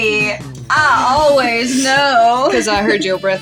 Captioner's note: chuckle